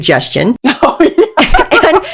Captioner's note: laughing